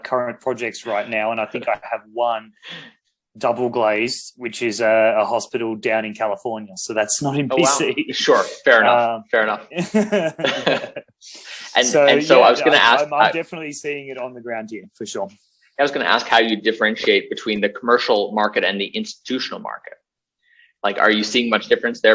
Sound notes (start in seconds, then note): 0.7 laughs; 7.6 laughs; 9.7 BOTH laugh